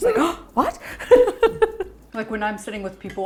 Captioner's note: laughing